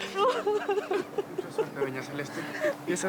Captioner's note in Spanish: Sollozos